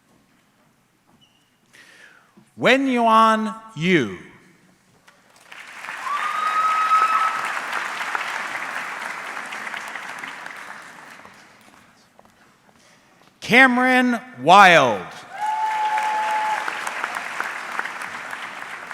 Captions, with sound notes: Wenyuan Yu. (audience clapping) Cameron Wilde. (audience cheering)